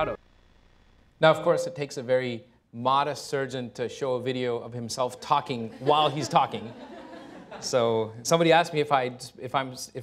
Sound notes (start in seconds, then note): 5.6 laughter